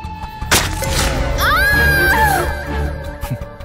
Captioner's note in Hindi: दर्द से चिल्लाता है